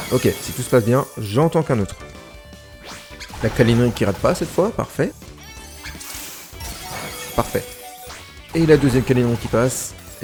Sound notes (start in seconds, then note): 6.6 low HP sound